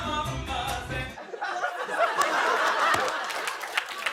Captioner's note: laughter